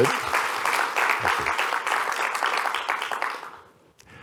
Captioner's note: applause